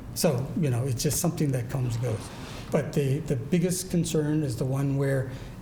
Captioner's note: none